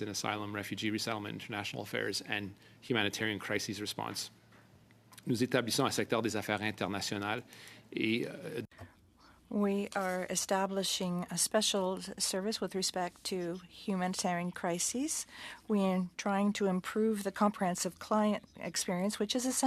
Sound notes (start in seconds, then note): 12.9 speaking French